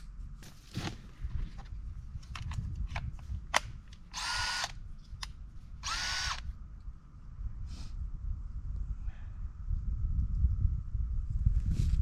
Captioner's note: drill whirring